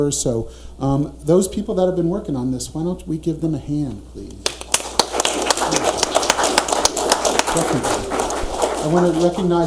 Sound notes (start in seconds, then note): 4.5 audience applauding